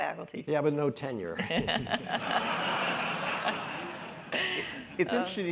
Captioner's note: laugh